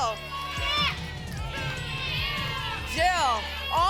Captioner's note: audience shouting numbers